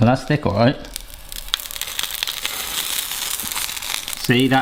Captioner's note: pancake sizzles